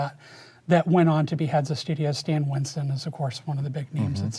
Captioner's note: none